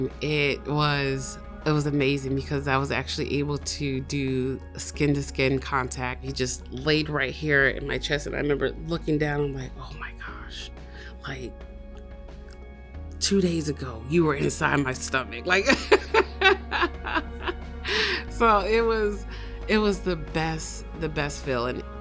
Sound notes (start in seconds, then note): 15.7 laughs